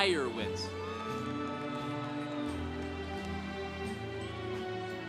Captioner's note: congregation cheering